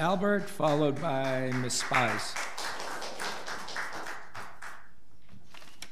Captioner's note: audience applauds